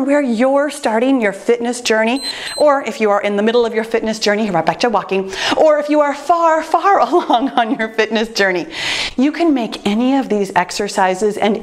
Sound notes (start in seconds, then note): 2.1 timer beeps